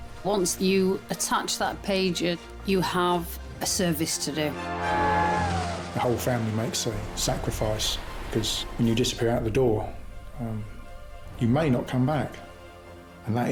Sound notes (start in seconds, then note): 4.6 all shouting